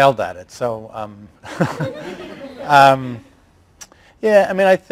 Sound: laughs and laughter

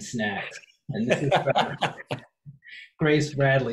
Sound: laughing

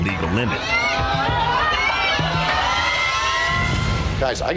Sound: patrons cheering

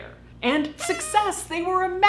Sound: party whistle blowing

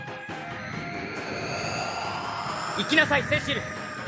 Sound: SFX: spell sounds

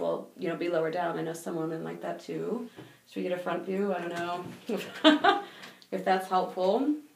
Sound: laughing

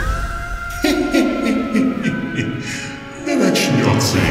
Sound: evil laugh

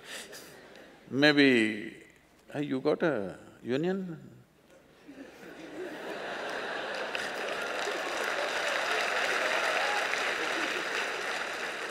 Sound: laughter

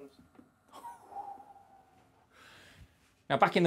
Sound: impressed whistle

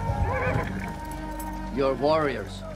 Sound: horse whinnies

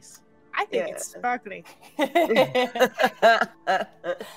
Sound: all laughing

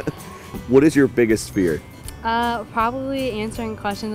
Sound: laughter

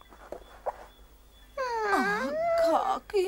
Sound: moans

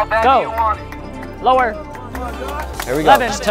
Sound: people speaking indistinct

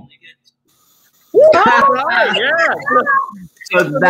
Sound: cheering

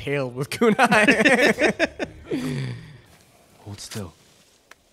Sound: both laughing

